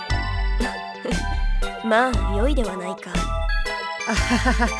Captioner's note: chuckle; awkward laugh